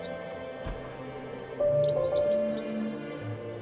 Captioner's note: another spotlight, mice squeak